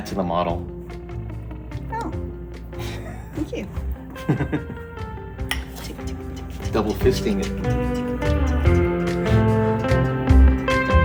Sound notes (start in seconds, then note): 4.0 Martin laughs